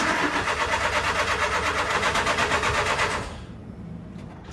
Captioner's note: engine sputtering